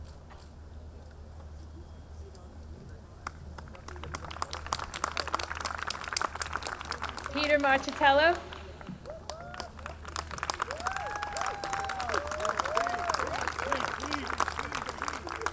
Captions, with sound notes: - Peter Marchitello. (audience cheering)